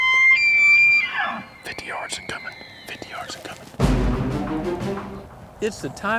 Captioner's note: whispering